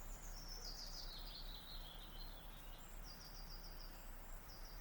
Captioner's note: birds chirping